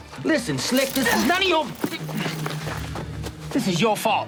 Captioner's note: Moon grunts, chain rattles